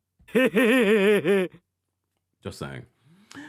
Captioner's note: person laughing